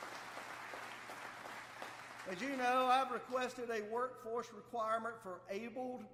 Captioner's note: applause